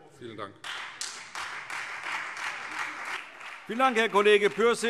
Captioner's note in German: Beifall Freie Demokraten und vereinzelt SPD